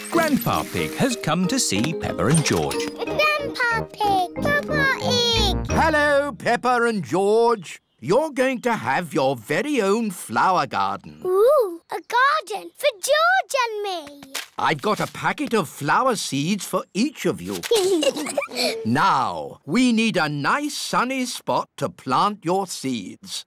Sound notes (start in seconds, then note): 17.6 both giggling